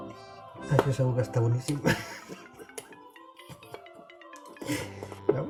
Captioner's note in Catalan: Riu